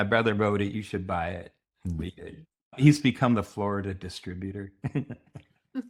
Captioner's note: chuckles